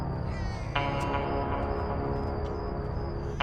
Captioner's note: baby crying